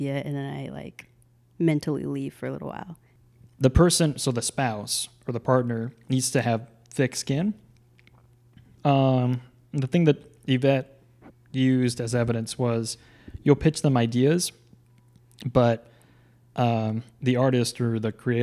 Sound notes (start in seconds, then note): none